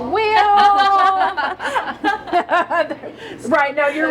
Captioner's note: all laughing